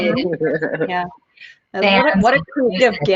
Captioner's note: chuckling